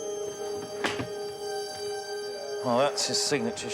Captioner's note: drawer closes